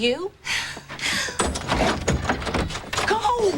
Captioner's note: nervous sigh